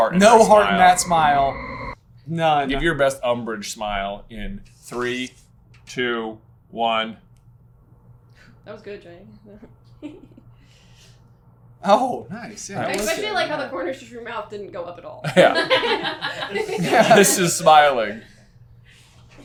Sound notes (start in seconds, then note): 10.5 laughs; 15.2 team laughter